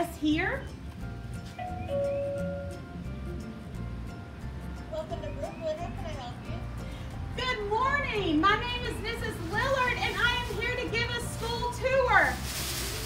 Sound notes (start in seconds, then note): 1.6 door bell; 4.5 voice from speaker; 9.1 sound of pompoms shaking